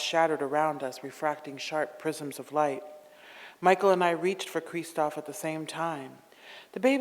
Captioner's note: none